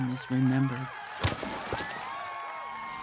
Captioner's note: crowd cheers